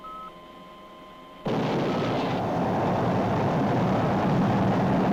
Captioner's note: engine firing